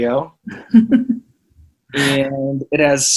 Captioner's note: laughs